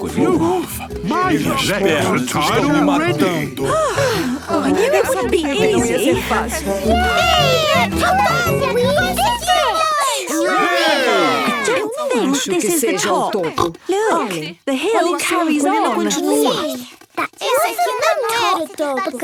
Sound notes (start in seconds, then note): 3.6 panting; 13.4 snorts